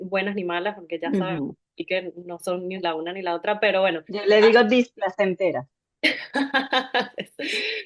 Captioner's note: laughs